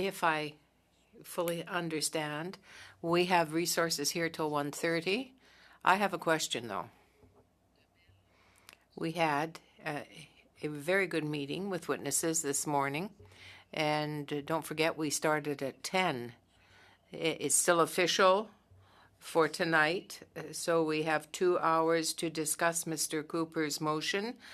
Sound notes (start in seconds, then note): 4.1 speaking French